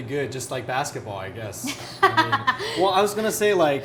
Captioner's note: Megan laughs